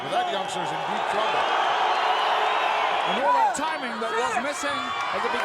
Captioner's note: applause